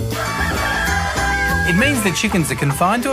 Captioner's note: rooster crowing